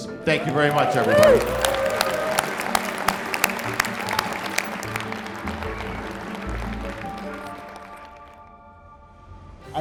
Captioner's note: applause